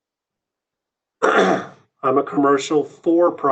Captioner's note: clears throat